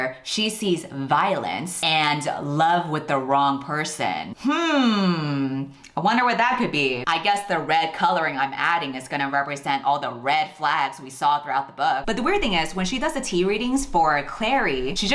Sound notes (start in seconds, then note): 4.4 humming